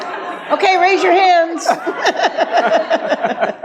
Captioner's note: audience laughs; laughs